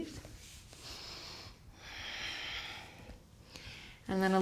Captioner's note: deep breathing